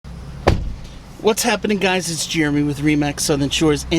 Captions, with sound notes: (car door bangs) - What's happening guys. It's Jeremy with RE/MAX Southern Shores.